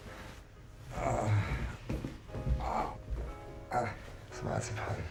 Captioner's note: man moaning